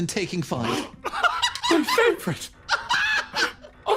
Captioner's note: gasp; laugh